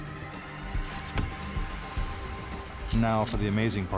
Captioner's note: blade thuds